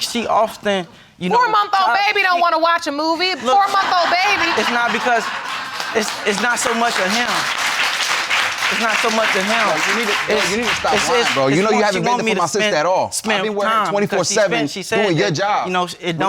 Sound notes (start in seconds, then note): 3.4 audience laughing